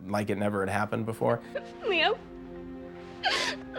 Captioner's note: sobbing